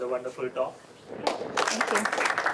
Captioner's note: applause